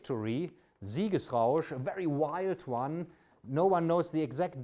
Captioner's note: speaks German